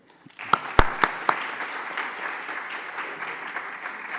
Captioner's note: applauding